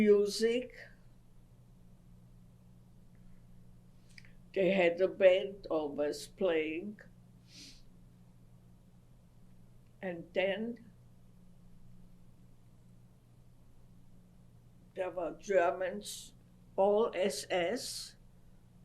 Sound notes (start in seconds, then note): 6.8 pauses for 3 seconds